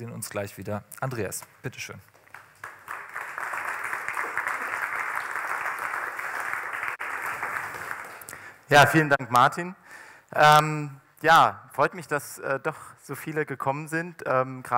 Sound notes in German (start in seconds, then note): 2.1 Applaus